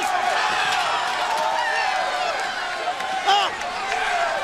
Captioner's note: crowd cheering